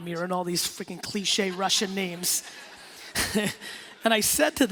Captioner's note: laughing